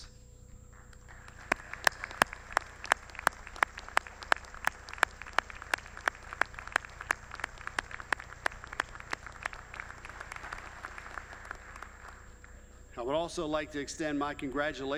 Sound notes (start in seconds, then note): 2.2 applause